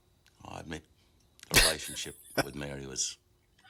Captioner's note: laughing